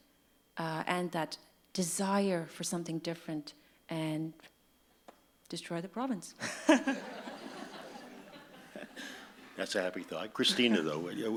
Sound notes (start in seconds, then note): 6.4 audience laughs; 6.4 laughs